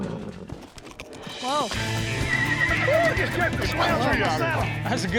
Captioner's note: horse bucking, neighing